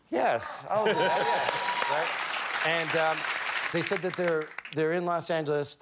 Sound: cheers and applause

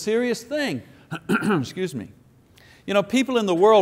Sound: clears throat

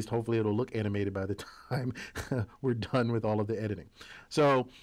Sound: laugh

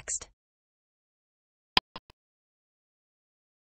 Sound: click sound

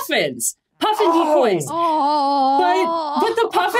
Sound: groan

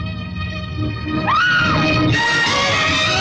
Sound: screams

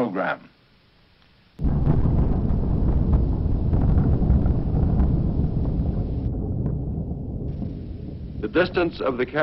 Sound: muffled sound of a nuclear explosion

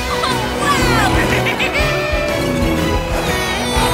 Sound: giggling

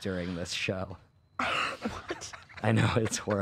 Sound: laughs

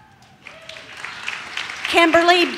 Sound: audience claps

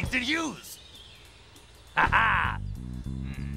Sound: laughs

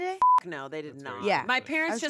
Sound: beep

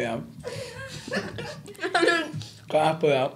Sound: laughing

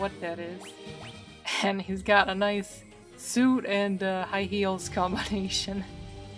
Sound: laughing

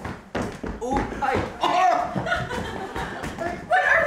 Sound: shuffling

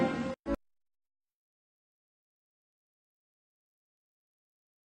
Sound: silence

